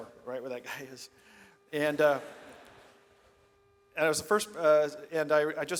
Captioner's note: audience laughs